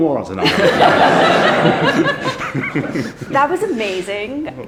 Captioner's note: everyone laughs